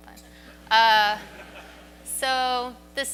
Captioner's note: audience laughs